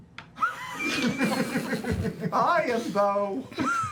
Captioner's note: laughter